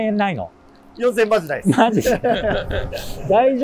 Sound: laughing

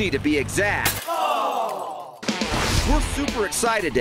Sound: people moan; crash

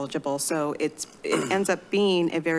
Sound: clears throat

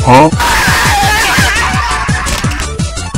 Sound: yelling

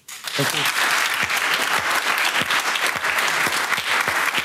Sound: audience applauds

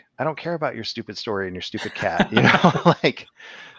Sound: laughs

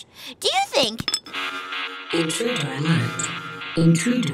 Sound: alarm blaring; voiceover

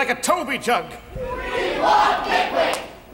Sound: crowd

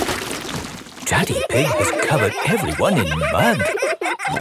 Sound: all laughing

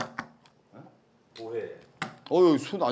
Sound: crushing garlic

